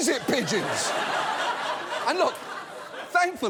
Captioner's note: audience laughs